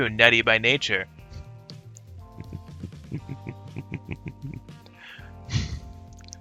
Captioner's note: chuckles